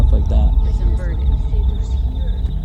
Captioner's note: car